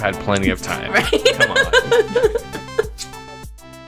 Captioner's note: laughs